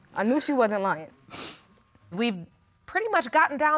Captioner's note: sniffles